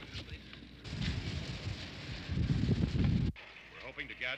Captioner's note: car engine running